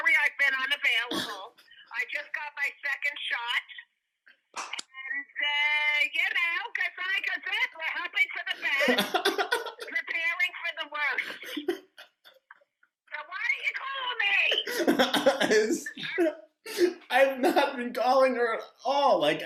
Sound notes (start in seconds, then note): 14.1 laughs